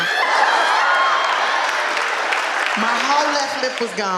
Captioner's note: audience laughing